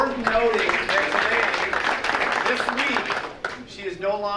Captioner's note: audience applauding